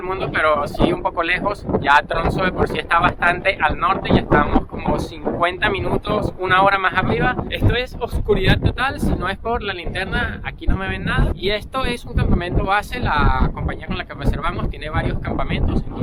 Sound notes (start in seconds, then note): none